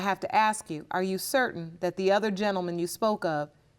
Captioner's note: none